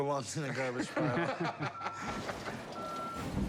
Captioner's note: laughter